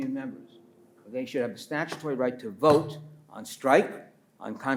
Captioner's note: pats table